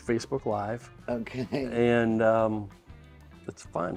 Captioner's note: chuckles